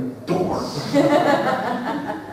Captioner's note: laughter